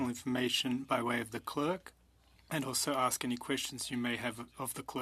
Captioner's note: speaking French